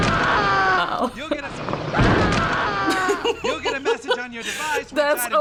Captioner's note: man screams; laughs; chuckles